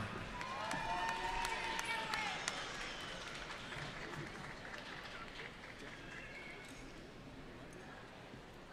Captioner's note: cheering